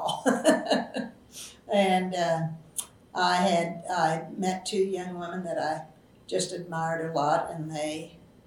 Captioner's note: laughs